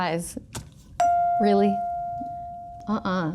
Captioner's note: chime pings